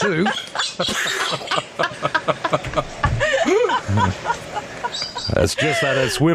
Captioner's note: laughter